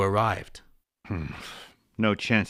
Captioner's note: groan